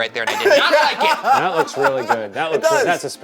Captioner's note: laughing